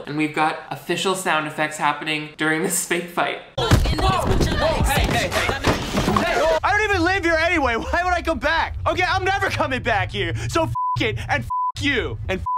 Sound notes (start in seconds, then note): 3.6 hits thudding; 4.0 people shouting